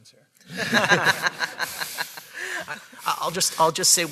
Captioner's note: audience laughing